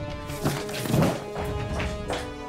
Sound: footsteps

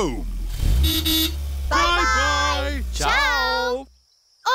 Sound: horn toots

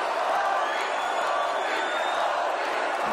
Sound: crowd; crowd chanting

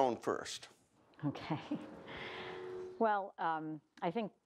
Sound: laughs

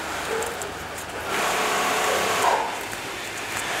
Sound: machine whirring in the background

